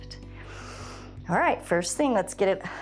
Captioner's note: inhales